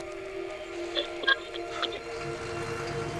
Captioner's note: tuning through radio stations